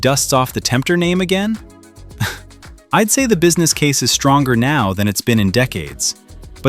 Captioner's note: chuckles